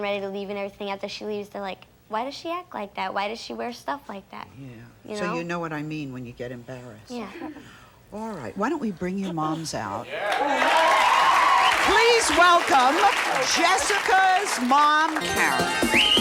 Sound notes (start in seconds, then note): 10.0 audience cheers; 15.9 upbeat music